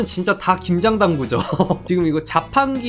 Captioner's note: laughing